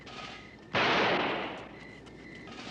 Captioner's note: silah ateşleme